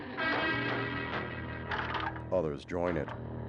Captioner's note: banging on door